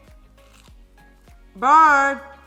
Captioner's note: food crunches